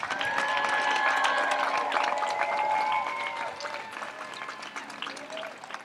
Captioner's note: audience continues to applaud and cheer